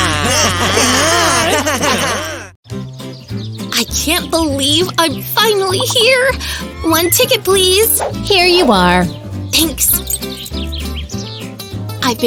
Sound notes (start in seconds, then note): 4.6 happy shouting and laughter